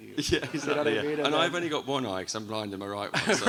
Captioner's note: audience laughs